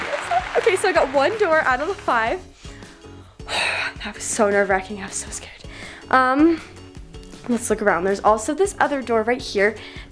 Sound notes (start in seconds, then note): 3.4 sighs; 5.8 upbeat music